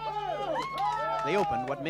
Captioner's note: cheering and applause